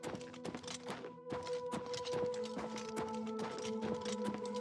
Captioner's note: footsteps pounding